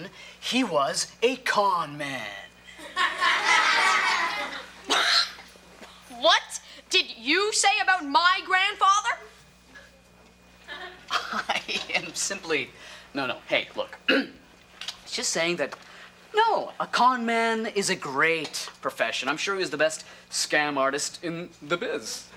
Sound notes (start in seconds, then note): 2.8 audience laughter; 5.4 scoffs